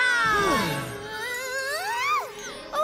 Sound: shrieking

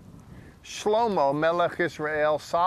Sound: speaking in Hebrew

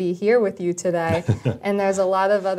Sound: laugh

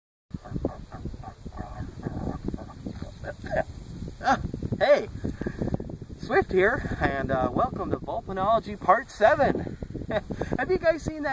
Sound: gnawing branch, spits it out

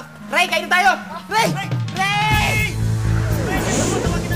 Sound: shouting

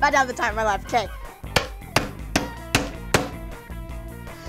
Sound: hammering

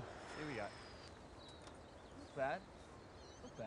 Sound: birds chirping

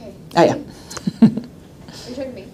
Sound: chuckles

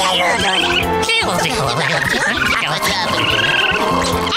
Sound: speaking Isopod

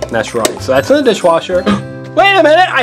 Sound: gasps

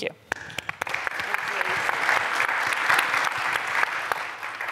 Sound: applause

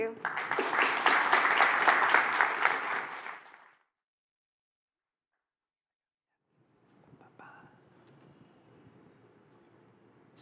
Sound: applause

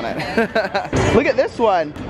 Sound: laughs

